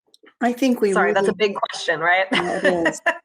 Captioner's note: laughs